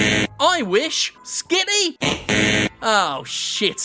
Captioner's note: buzzer buzzes; buzzer buzzes